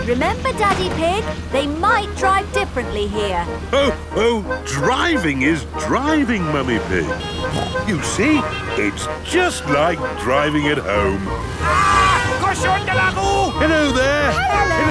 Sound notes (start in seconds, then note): 12.2 yells